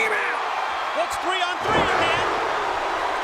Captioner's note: crowd roaring continues; floor pounding